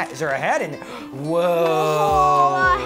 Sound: gasps

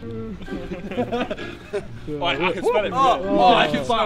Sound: chuckling

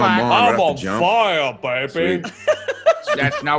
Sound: laugh; laugh

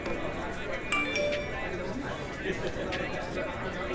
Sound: text alert

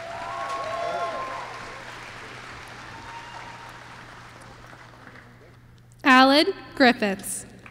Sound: applause

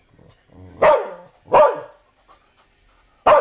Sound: barking; barking

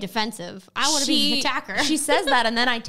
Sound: laughs

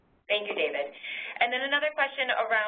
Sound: voiceover

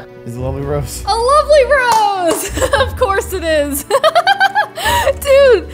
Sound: laughs

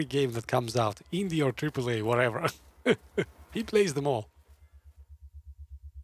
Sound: laughs

